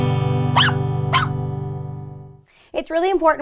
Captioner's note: dog yelping